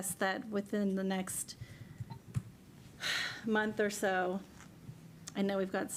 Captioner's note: sighs